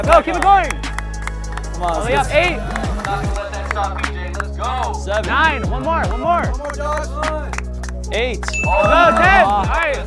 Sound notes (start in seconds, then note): 0.0 spectators clapping hands; 8.5 bell dings